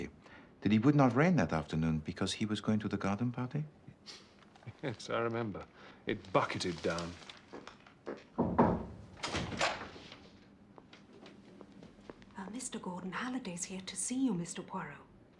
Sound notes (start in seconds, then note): 8.3 Ketuk pintu